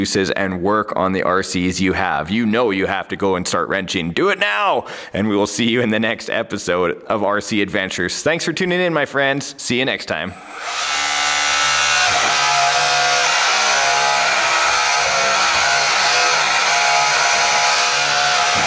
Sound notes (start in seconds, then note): 10.3 mechanical whirring